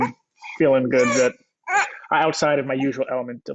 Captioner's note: groans